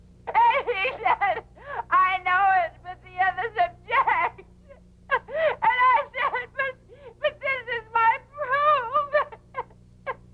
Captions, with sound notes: - And he said I know it but the others object. And I said but this is my proof. (sobbing)